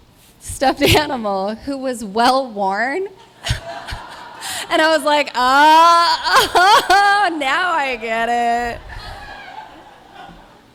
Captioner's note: laugher; laughter